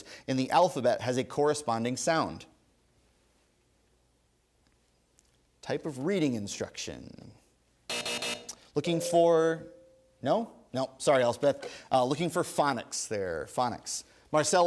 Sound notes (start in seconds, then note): 7.9 three buzzes; 8.9 ding